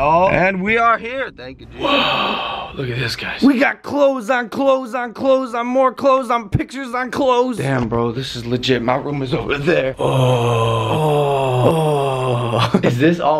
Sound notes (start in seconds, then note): 2.0 whispered; 12.5 sensible Chuckle